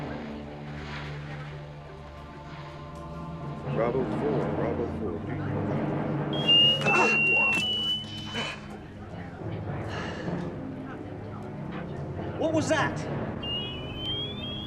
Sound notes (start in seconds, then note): 6.3 whistle; 9.9 sigh; 13.4 whistle